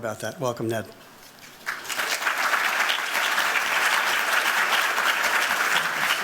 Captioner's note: applause